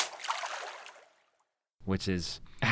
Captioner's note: water splashes